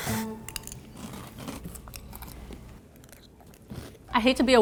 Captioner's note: soft crunching